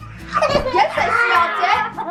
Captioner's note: laughing